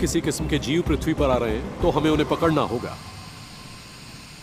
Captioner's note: air hissing